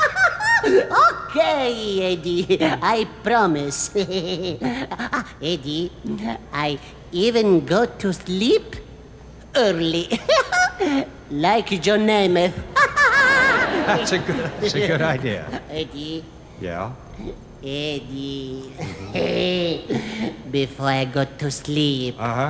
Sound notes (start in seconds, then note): 0.3 laughing; 9.2 laughing; 12.6 laughing